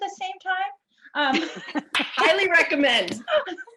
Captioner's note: laughter